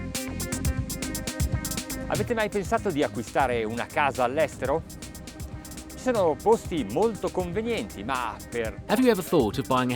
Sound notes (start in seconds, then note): 0.2 funky music; 3.2 speaking foreign language